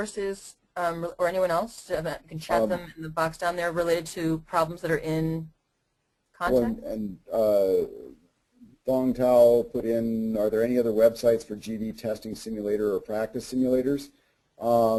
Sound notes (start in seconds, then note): 9.0 voiceover